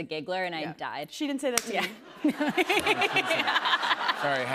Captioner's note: laughter